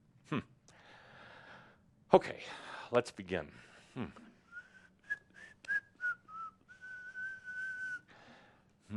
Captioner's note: Adamus whistles and then hums